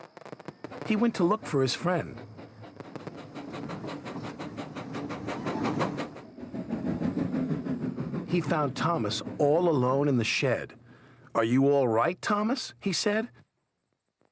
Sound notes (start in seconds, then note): none